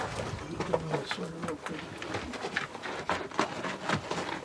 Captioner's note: rocks clattering